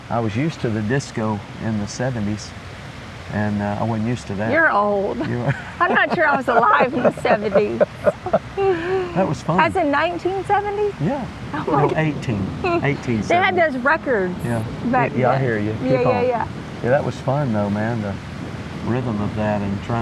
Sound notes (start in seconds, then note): 8.2 laughing